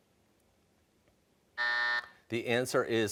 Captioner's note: buzzer